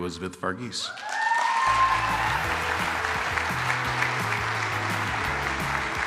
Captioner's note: applause,music playing